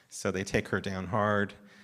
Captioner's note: none